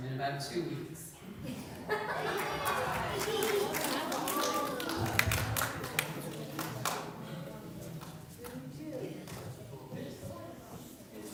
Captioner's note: laughter